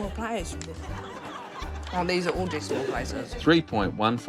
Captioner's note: yells